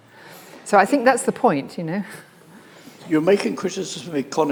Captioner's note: laughs